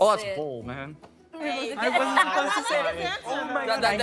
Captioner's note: all laughing